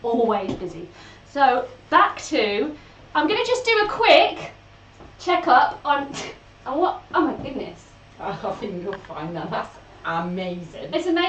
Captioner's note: laughs